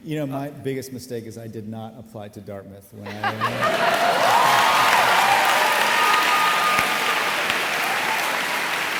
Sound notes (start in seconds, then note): 3.2 audience applauding